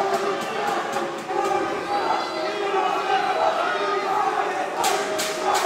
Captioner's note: crowd chanting "You suck!"